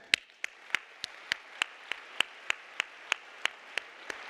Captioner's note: clapping